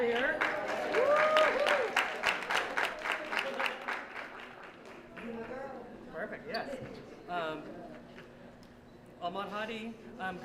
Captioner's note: applause